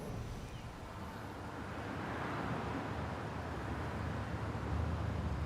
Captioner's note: background traffic